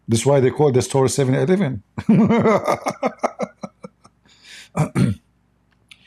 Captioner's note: Ketawa